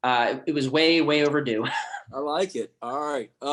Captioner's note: laughing